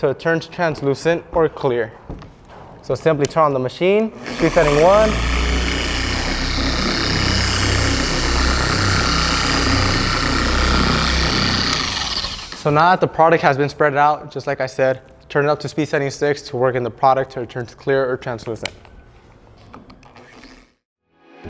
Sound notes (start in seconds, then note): 4.2 orbital buffer turning on; 11.9 orbital buffer turning off